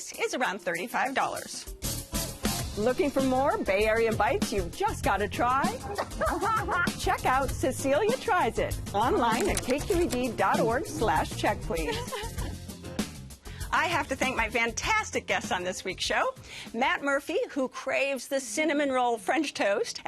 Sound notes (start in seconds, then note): 5.7 laughs